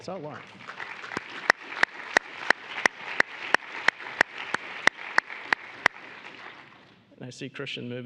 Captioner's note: applause